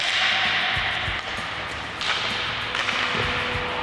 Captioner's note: pucks being hit